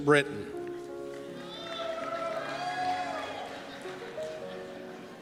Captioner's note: cheers